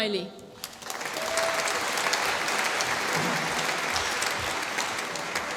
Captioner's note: applause